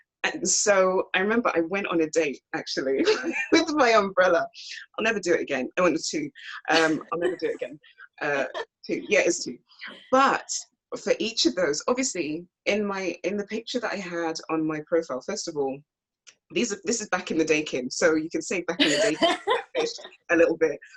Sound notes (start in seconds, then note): 3.0 laughs; 6.7 laughs offscreen; 18.8 laughs